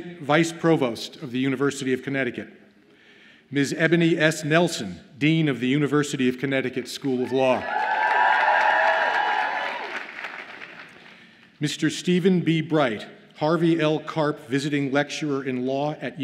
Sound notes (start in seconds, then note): 7.2 audience cheers and applauds